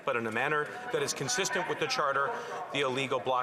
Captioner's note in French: voix de l'interprète